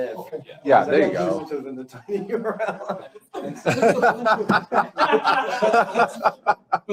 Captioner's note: laughter